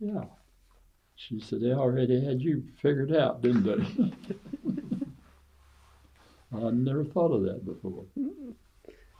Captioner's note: laughs